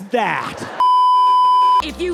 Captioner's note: beeeeeep